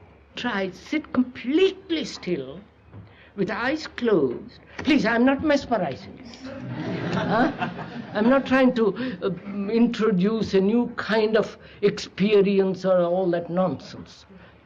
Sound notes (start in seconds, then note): 6.4 laughter